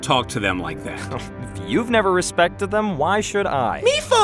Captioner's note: scoff